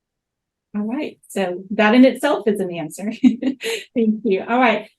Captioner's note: laughs